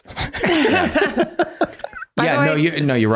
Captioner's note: everyone laughing